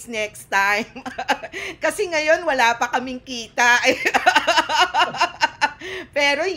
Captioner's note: laughter